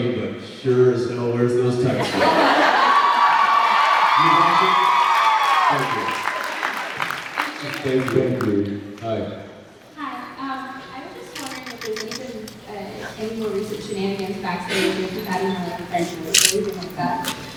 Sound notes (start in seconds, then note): 2.0 laughs, cheers, applauds; 6.2 applauds; 8.5 applauds